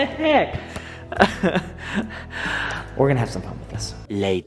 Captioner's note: laughs